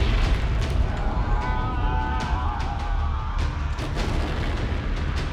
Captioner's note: yelling; dramatic music